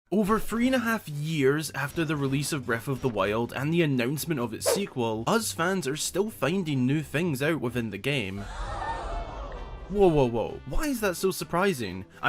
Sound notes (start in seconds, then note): 8.4 whaaaat/Crowd Shook